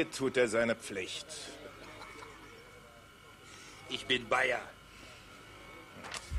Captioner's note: laughs